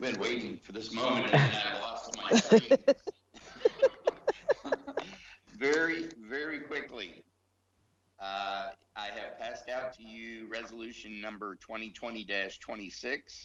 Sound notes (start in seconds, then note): 3.4 board laughing